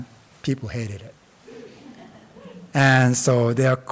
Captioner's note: audience laughs